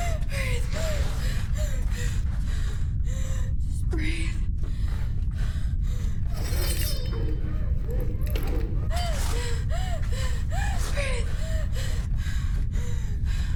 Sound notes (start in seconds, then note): 6.3 metal scrapes; 8.8 Abby pants